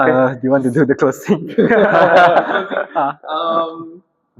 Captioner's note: laughs